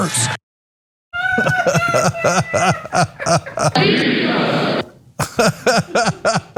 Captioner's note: laugh